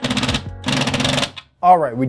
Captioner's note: drill cranking